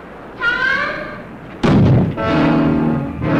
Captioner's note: door slamming; suspenseful music